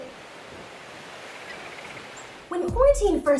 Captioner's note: waves crash